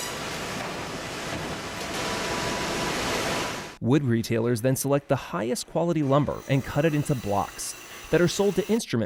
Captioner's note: heavy machinery